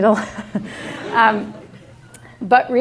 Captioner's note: laughter